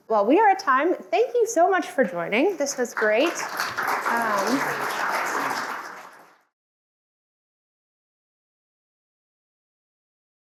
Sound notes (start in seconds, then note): 2.4 audience applauding